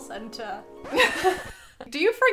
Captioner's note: both chuckles